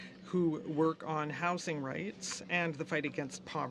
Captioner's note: speaking French